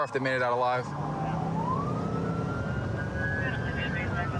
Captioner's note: police sirens blaring; dispatch chatter